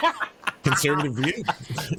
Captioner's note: laughing